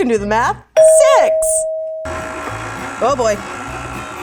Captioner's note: bell sounding